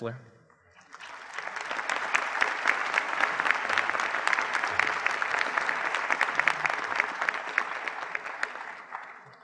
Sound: applause

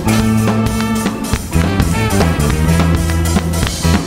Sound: clapping

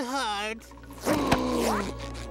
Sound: gasping

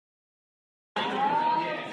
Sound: chatter

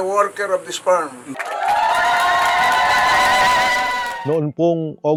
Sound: intense joyful reaction of the crowd

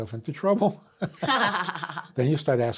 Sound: both laughs

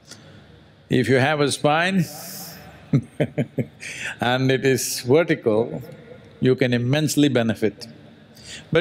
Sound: laughs

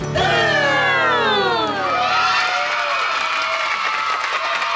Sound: cheering

